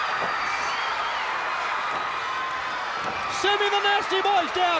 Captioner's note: crowd cheers